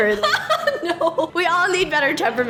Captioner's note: laughs